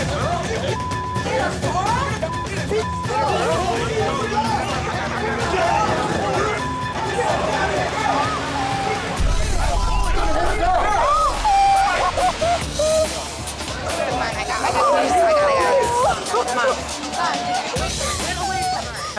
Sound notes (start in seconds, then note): 2.1 shouting; 3.7 crowd shouting; 11.4 sobbing